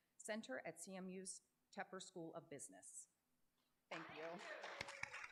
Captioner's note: applause